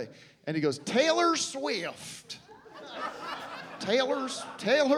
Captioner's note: southern accent